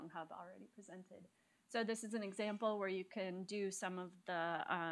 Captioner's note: none